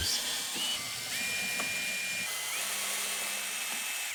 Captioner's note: drill whirring